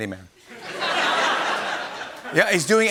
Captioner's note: laughter